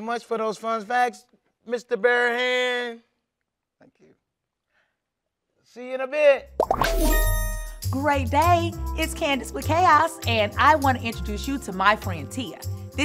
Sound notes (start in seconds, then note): 6.6 phone dings